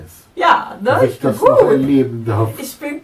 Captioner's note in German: Aus dem Off